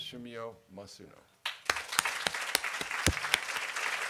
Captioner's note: clapping